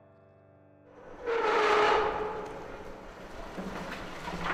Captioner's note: metal scraping